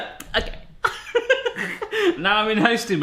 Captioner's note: laughs